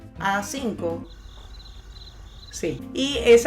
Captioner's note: crickets